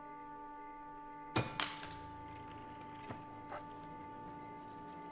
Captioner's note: glass shattering; dramatic music